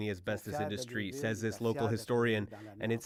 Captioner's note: speaking French